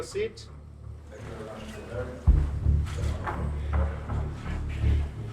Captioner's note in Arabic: ثرثرة الجمهور